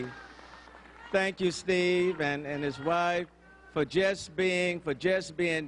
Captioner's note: applause